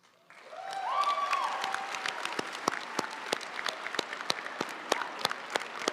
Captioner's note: audience cheering and applauding